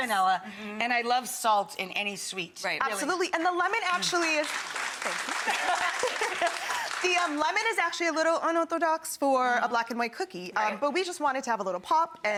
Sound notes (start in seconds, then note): 3.9 audience applauding; 6.8 both laughing